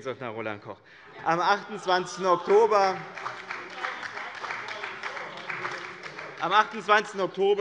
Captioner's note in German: Beifall bei dem BÜNDNIS 90/DIE GRÜNEN und der SPD